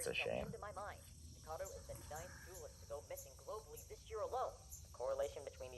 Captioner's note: on Radio